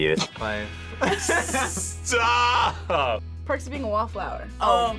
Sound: laughs

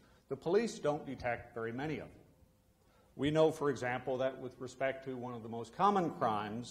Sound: none

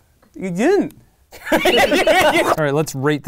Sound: laughing

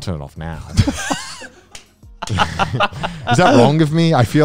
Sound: everyone laughs

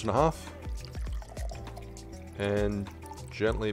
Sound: liquid splashing into glass

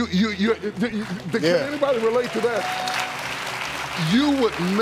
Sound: audience clapping

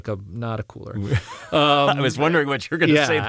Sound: laugh

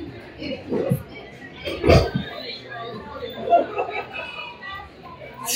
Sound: background restaurant noise

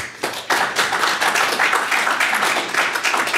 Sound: applause

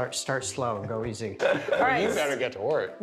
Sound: laughter

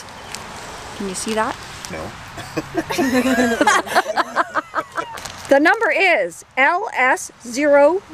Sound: laughter

